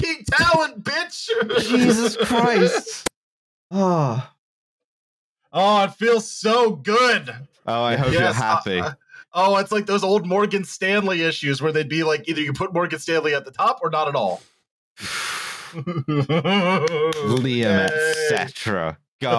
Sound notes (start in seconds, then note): 15.0 blows out a breath; 15.7 laughs; 16.7 claps hands in glee